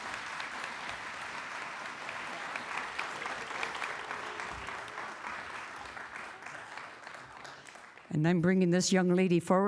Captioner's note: applause